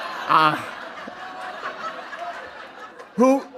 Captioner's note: laughter